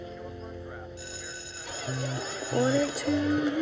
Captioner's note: school bell rings